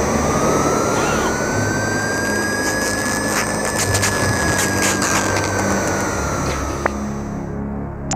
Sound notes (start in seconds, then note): 0.9 gasping